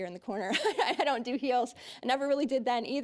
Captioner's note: laughing